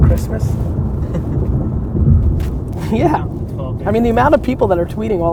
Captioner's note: laughs